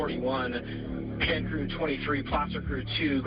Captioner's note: radio